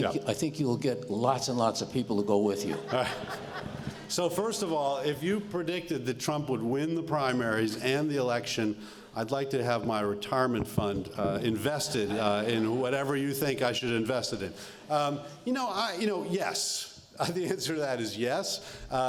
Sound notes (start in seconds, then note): 2.6 laughter